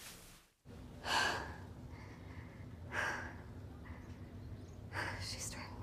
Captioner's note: breathing heavily